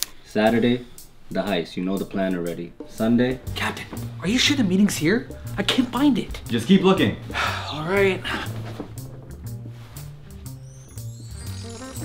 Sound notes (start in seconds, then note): 7.4 sigh; 8.9 slow jazz music